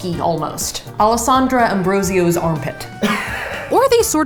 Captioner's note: laughs